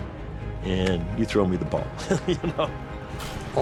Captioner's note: laughs